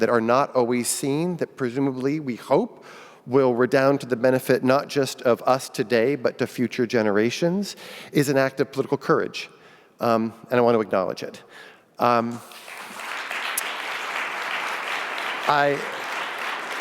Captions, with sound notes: that are not always seen, that presumably we hope will redown to the benefit not just of us today, but to future generations is an act of political courage. And I wanna acknowledge it. (audience applauding)